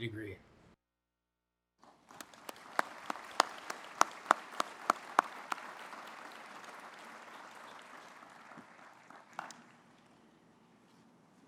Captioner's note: applause